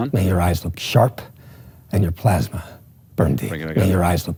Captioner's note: movie dialogue plays